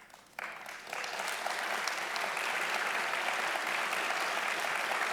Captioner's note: audience applauding loudly